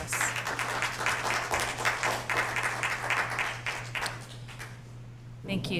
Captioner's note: applause